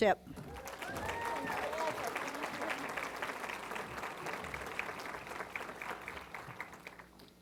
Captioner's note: applause